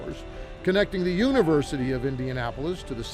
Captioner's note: none